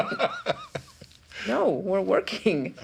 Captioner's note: chuckling